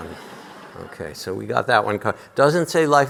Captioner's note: audience laughing